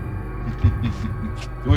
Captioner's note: laughs